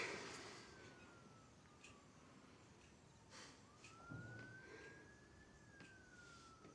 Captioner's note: Tania sighs; sirens wailing; clock ticking